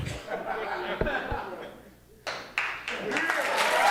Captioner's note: audience clapping